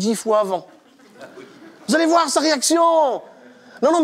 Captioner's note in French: Rires